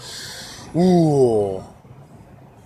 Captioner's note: sharp intake of breath